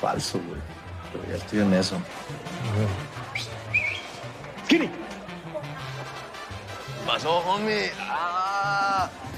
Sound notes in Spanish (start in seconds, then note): 3.2 Chiflido